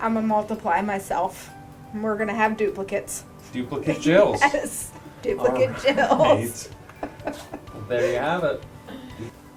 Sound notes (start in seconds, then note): 3.9 laughing